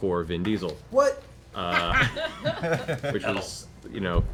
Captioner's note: laughs